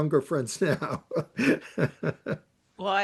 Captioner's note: laughs